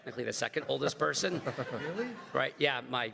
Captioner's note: everybody laughs